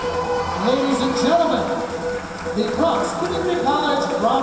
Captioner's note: cheering